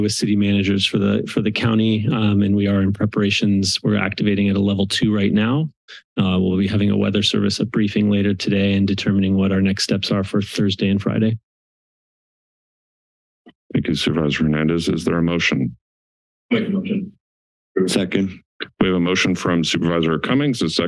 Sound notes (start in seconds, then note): 11.6 silence